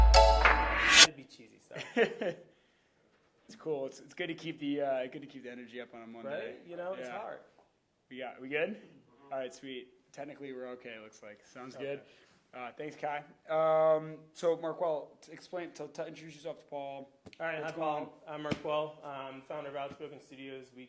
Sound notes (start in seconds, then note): 1.7 laughs